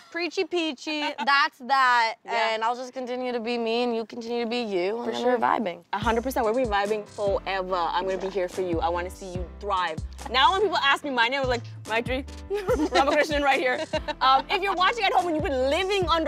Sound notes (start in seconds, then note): 12.5 laughs